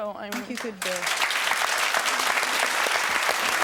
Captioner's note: audience clapping